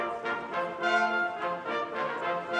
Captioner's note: none